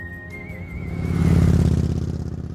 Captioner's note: motorbike roaring